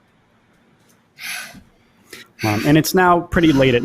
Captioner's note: breathes heavily